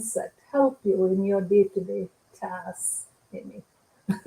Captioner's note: laughter